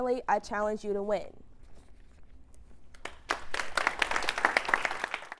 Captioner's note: applause